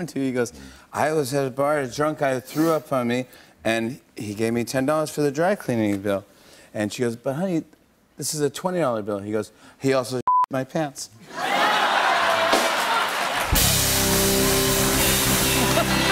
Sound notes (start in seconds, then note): 0.5 slurring; 6.3 normal voice; 11.3 laughter and applause; 13.4 band plays